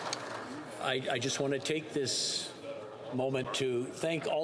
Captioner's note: some Applause